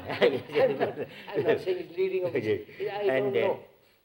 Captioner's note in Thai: หัวเราะ